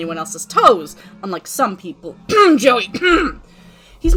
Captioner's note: koff